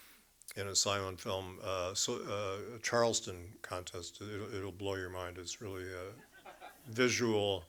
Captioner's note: chuckles from audience